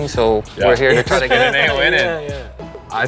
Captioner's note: laughs